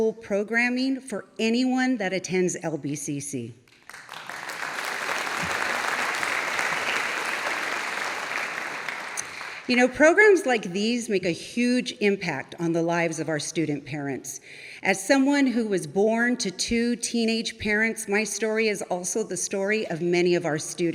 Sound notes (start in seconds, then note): 6.5 audience applauding